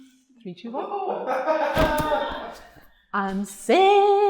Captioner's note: laughing